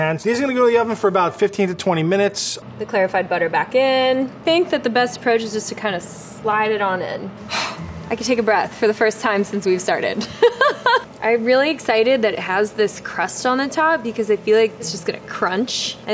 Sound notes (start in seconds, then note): 10.4 laughs